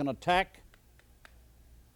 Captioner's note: cane tapping